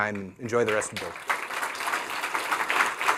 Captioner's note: applause